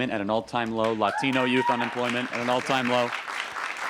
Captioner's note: applause